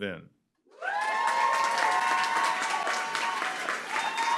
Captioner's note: applause, cheering